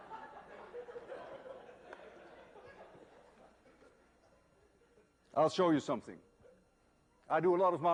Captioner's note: laughter